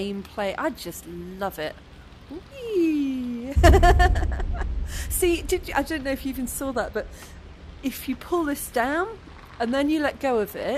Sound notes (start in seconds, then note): 3.1 laughing